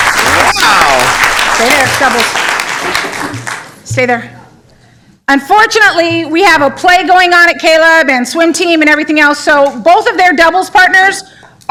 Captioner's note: applause